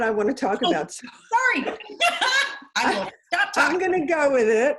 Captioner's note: laughs